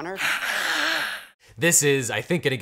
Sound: Maureen hisses

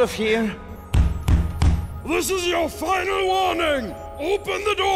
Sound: banging on the door

